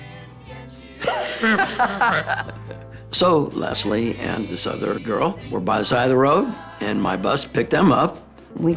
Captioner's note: laugh